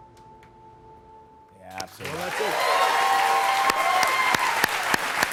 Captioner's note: cheers and applause